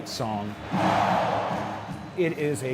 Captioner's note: crowd